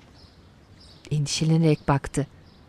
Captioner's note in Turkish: Kuş sesleri